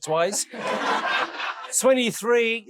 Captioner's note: audience laughing